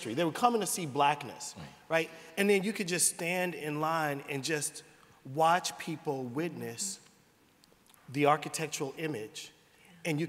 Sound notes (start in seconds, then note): none